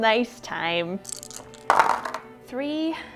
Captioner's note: dice clunking